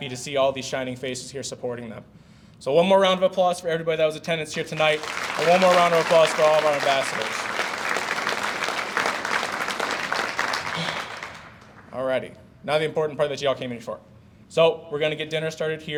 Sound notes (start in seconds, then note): 7.5 audience applauds